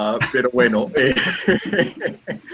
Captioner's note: laughing